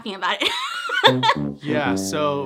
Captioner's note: laughs; trumpet blowing